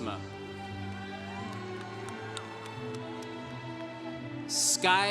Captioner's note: congregation cheering